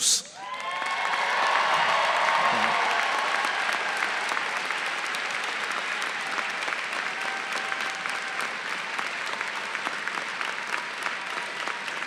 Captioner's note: applause